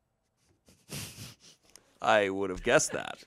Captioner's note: laughs